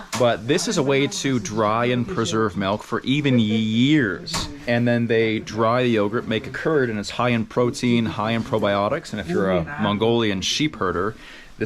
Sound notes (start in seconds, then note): none